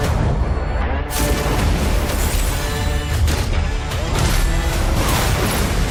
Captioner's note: mechanical clinking